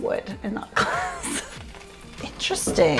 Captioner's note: laughs